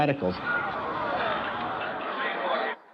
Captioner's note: audience groans